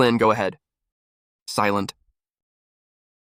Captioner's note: silent